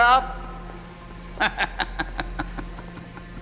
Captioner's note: laughs